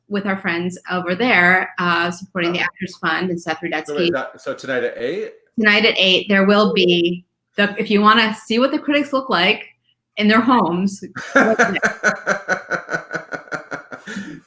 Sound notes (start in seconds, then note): 11.1 laughs